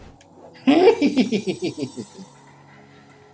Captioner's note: laughs with wicked delight